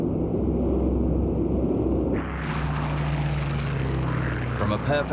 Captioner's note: plane engines roaring